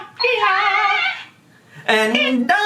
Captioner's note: toy squawking